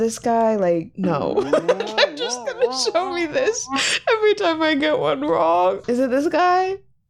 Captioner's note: laughing